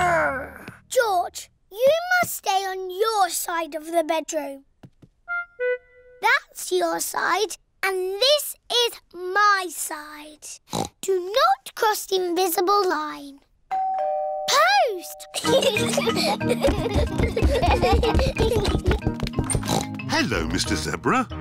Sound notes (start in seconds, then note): 10.7 oinks; 13.7 doorbell rings; 15.4 both giggling; 19.5 oinks